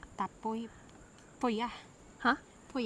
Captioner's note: foreign language